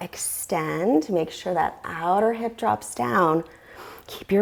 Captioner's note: deep breathing sounds